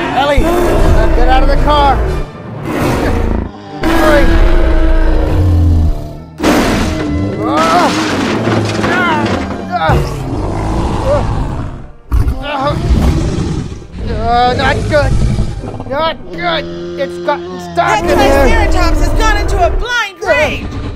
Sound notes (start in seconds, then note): 6.4 crash Sounds